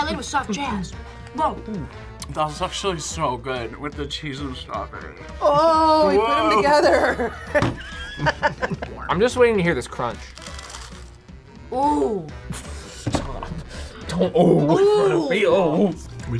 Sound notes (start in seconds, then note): 6.6 both laugh; 10.2 food crunches; 14.1 laughs